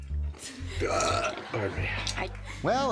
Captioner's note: audience laughing; grandpa belching